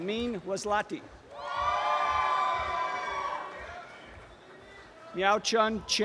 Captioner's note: applause and cheering